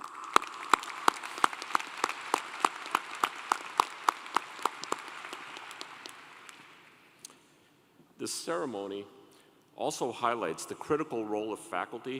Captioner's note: applause